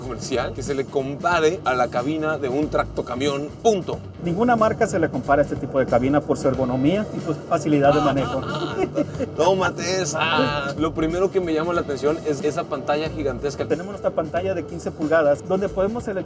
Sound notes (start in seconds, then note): 7.9 laughter